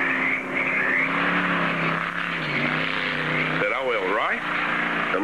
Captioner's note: engine Revving